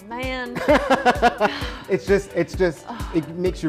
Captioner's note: laughs